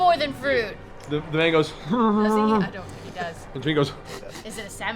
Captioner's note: distressed groans, sniffs